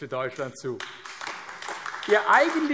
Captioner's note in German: Beifall AfD